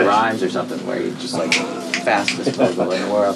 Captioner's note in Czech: lusknutí prstem